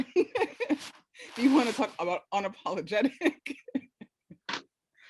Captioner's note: laughs; laughing